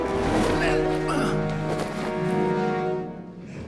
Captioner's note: grunts